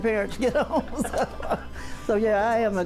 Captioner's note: laughs